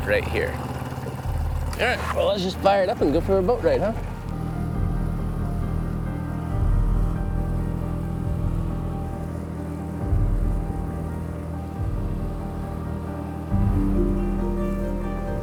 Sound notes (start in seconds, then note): 5.2 engine whirring; 5.2 somber piano music